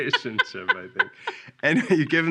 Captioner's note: laughing